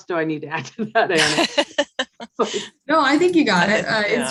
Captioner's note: all laughing